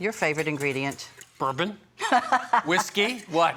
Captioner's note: laughing